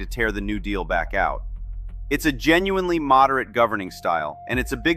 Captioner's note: thoughtful